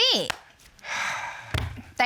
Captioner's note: sighs